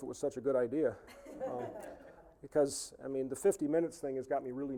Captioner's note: audience laughing